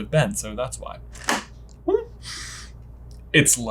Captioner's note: sniffs